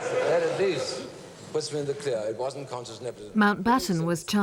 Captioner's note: Mountbatten speaking faintly